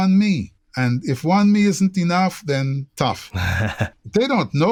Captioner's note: laughter